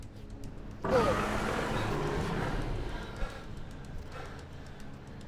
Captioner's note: dragon growls